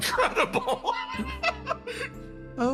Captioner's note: laugh